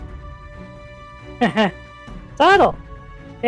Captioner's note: laughs